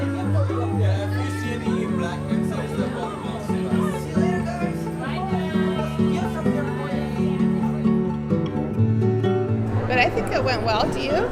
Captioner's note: indistinct conversations